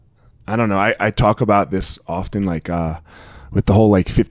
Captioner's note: none